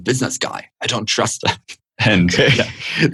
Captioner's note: laughter